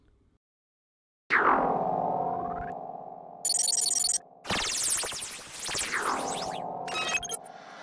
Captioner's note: warping sounds